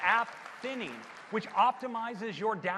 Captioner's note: cheers and applause